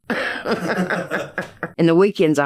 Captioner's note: both laughing